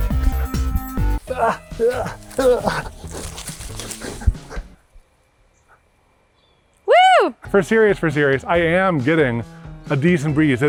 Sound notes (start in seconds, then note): 0.0 upbeat music; 1.2 groans